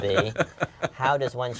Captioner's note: laugh